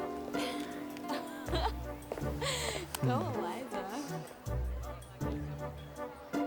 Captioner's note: laughs; whimsical music